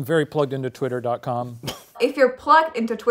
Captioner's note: laughs